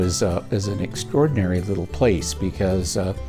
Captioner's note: voiceover